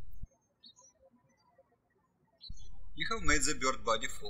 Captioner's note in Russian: птички щебечут